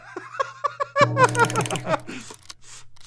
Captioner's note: clicking, whirring